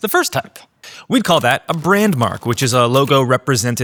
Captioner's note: keyboard clicking